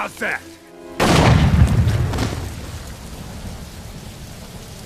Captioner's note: gun firing